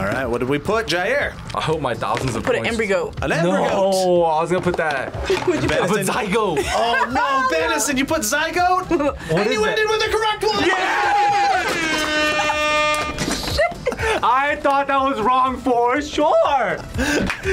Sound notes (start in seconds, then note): 5.2 laughs; 11.2 laughs; 11.4 air horns blaring